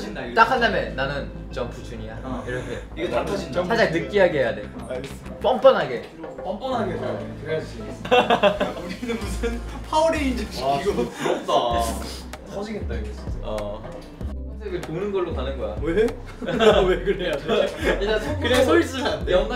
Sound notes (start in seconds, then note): 11.7 waiting room is full of laughter thanks